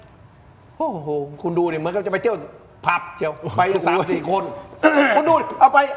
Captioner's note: clears throat